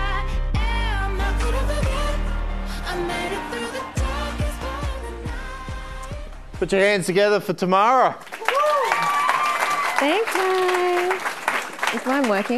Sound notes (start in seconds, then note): 7.8 audience clapping and cheering